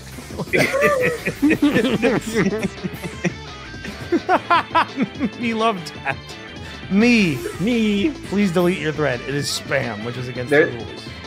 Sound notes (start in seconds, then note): 0.3 laughter; 4.0 laughs